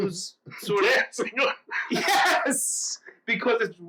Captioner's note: laughs